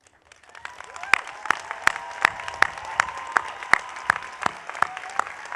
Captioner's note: audience applauding